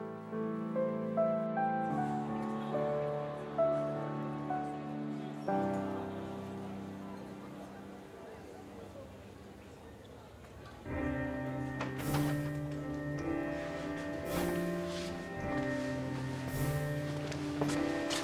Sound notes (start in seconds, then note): 1.0 audience chatting quietly; 1.0 soft gentle music; 10.9 bright contemporary music